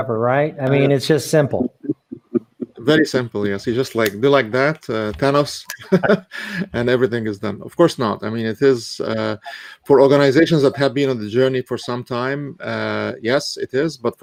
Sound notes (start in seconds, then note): 4.0 snaps fingers; 5.5 chuckles; 5.8 snaps fingers